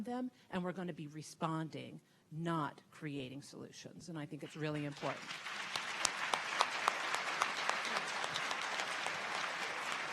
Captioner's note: audience Clapping